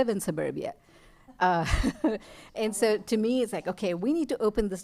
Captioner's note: laughter